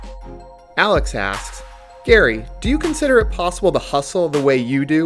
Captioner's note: voiceover